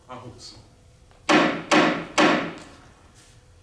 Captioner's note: gavel